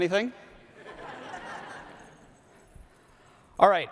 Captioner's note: audience laughs